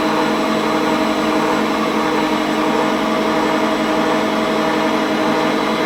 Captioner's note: machine whirring continues